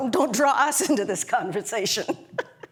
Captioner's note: laugh